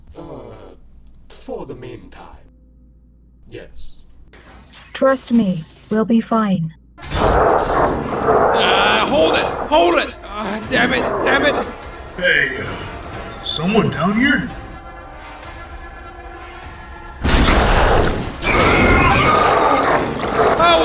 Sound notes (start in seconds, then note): 17.4 sudden shriek; 18.4 Autotrooper screams!; 18.4 roars